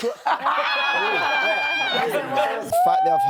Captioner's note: laughs